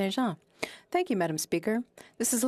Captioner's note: speaking French